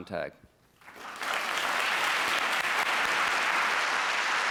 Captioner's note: applause